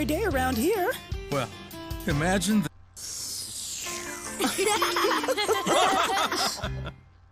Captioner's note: slurping; laughing